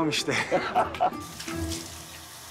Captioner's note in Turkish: Gülüyor